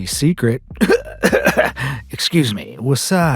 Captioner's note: choking cough